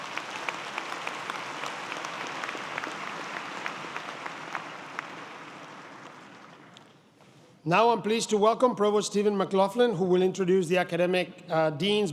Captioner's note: applause